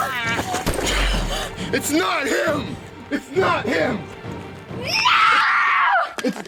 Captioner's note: bang